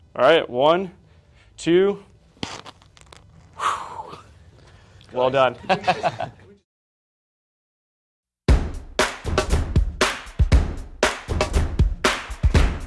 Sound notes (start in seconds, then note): 5.6 laugh